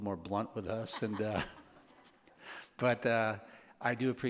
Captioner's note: laughter